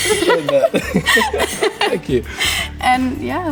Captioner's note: laughing